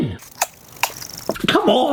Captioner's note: spam whirring